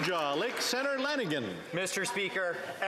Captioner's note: some Applause